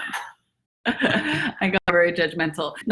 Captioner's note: laughing